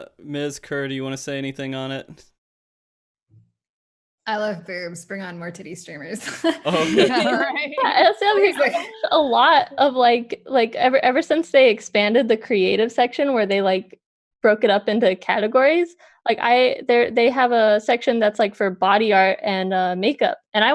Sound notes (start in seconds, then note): 6.3 laughs